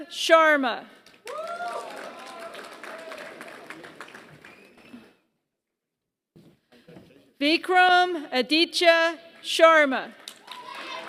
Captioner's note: applause; applause